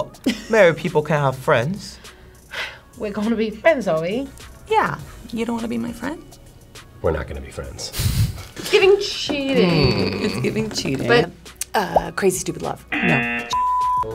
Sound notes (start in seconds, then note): 11.8 graphic popping; 12.9 buzzer razzing